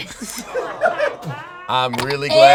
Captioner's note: all laughing